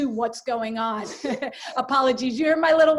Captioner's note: chuckles